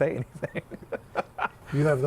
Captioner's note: laughter